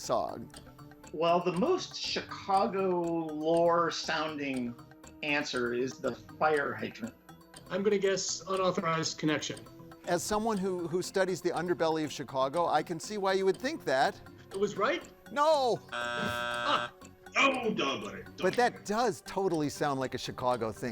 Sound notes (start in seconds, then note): 15.9 buzzer sounds